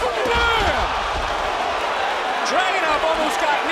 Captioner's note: crowd cheering